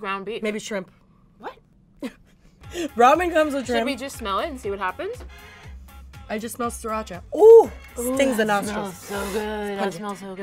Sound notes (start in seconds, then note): 1.8 laughs